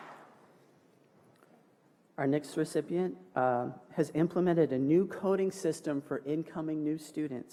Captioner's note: applause